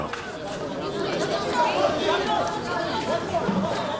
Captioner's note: reporters clamoring